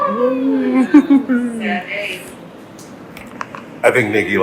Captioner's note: laughs